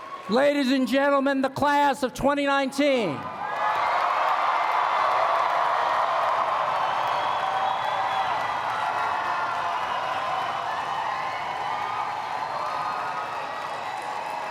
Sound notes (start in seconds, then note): 3.2 applause